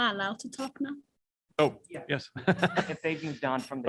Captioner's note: laughter